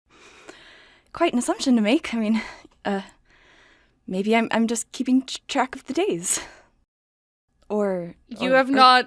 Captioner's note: sighs